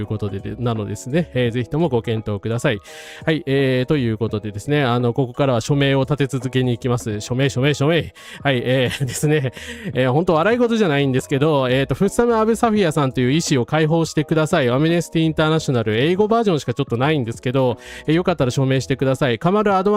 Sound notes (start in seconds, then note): 8.8 laugh